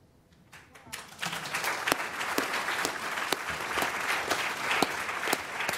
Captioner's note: applause